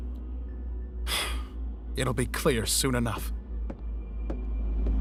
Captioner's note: sighs